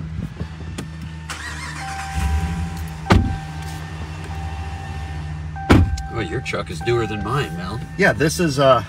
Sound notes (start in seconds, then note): 1.3 car engine sputters; 3.1 car door alarm beeps